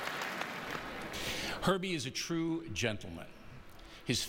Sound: applause

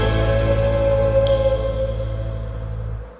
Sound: wind howling

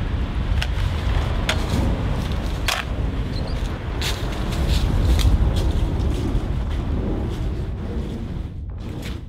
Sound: we hear the sound of gunfire

